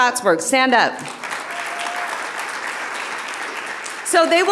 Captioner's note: audience applauding